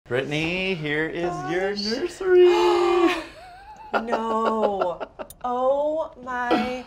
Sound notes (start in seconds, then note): 2.4 gasps; 2.5 laughs